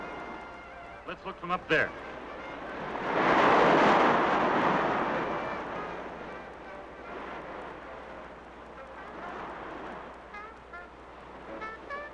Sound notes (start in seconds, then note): 2.7 waves crashing